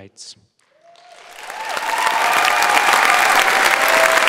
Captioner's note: audience applauds